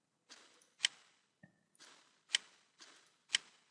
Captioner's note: clicking